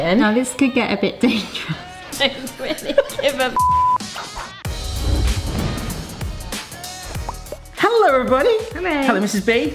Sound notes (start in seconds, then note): 1.3 laughing; 3.5 beep; 4.0 laughing